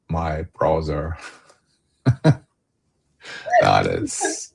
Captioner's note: laughter